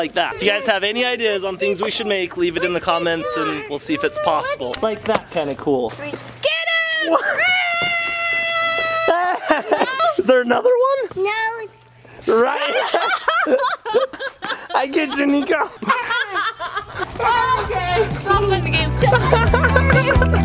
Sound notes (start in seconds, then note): 6.7 screaming; 7.0 laughs; 13.0 laughing; 16.3 laughs